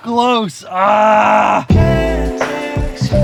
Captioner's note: groans; soft music